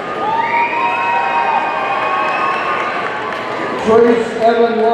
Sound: audience cheering

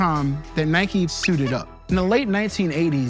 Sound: toy squeaks

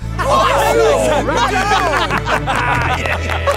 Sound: cheering

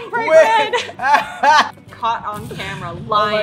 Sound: laughter

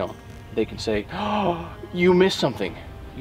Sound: man gasping

